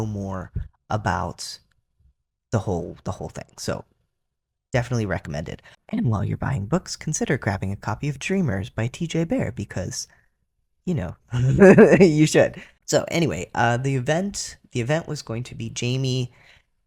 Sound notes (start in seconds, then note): 11.4 laugh